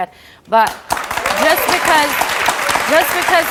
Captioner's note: audience applauds